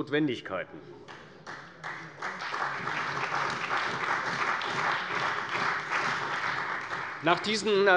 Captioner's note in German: Beifall bei der CDU und dem BÜNDNIS 90/DIE GRÜNEN